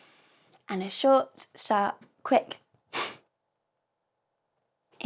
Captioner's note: exhale